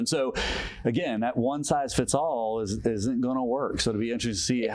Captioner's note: inhales deeply